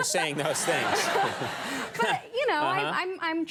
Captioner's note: audience laughing